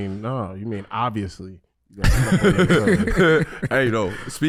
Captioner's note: laughing